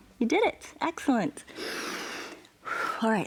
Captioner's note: inhales and exhales